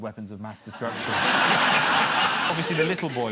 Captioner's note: audience laughter